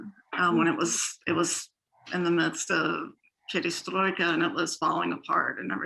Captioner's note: foreign language